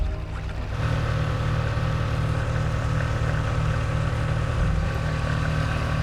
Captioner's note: water sloshing; boat engine revving